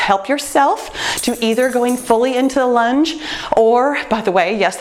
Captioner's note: jingling